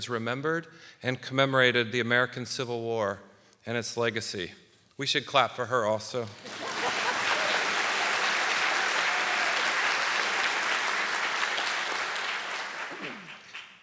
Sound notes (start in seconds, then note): 6.2 audience applauding; 6.3 panelists laughing